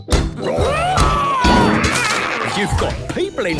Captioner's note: all roaring